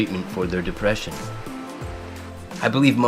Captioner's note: river flowing